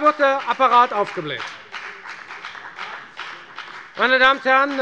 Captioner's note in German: Beifall bei der FDP